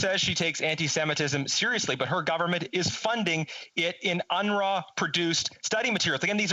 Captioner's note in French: voix de l'interprète